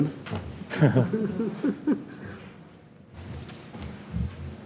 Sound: members chuckle

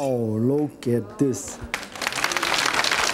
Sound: audience clapping

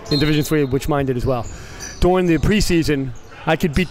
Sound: whistle blows

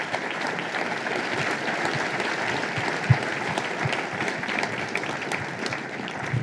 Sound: applause

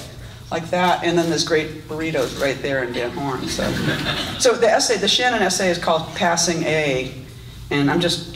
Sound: audience laughs

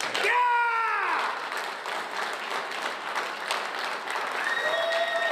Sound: audience applauds

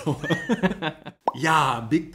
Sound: laughs

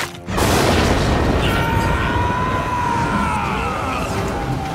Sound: screaming

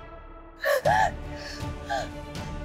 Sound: crying

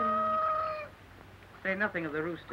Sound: rooster caws

